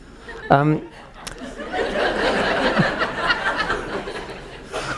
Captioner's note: audience laughs